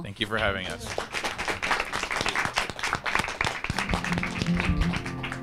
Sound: all applauding; bright music

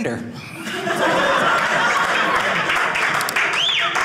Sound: audience clapping

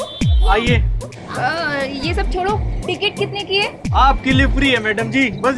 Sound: none

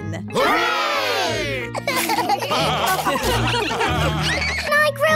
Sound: laughter

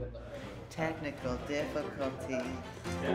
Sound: sing-song

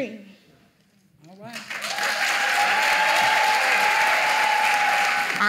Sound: applause

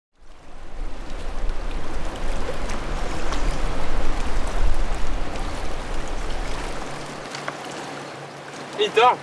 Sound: sound of water

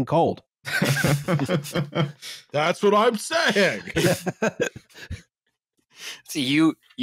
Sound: laughter

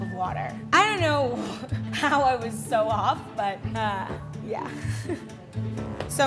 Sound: laughs

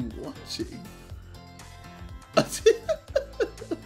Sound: laughing

